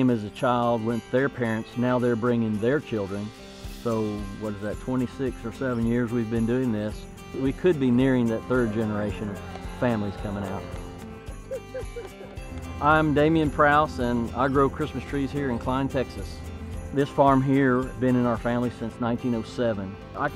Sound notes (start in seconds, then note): 11.4 father laughing and clapping